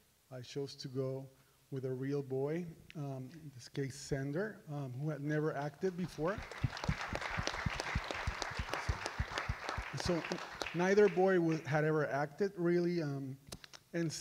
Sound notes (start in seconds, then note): 6.1 audience applauds